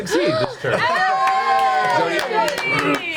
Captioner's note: all cheer